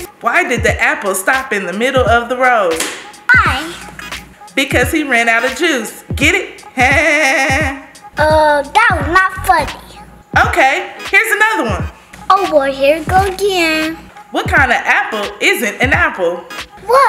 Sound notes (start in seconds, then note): 7.6 laughs